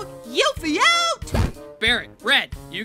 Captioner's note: poof